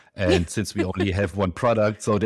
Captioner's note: laughs